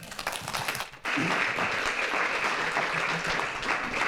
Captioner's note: audience clapping